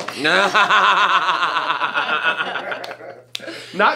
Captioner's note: all laugh